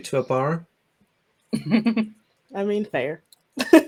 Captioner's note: laughter